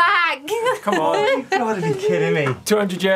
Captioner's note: laughing